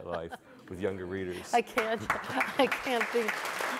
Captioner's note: audience applauding